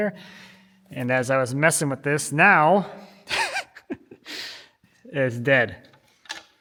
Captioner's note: laughs